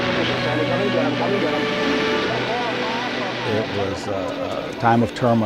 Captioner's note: sounds of war